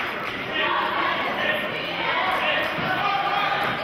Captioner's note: chanting